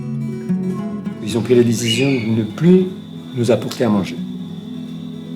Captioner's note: French spoken audio